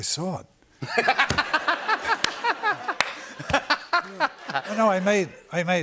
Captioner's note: laughter